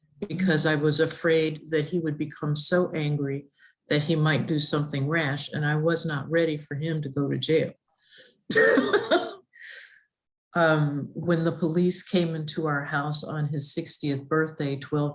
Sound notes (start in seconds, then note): 8.5 laughs